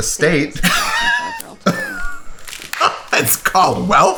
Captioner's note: laughs